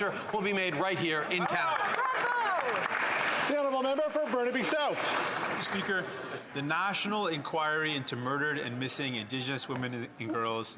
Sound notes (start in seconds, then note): 5.2 some Applause